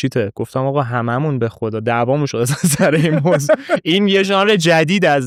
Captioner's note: laughs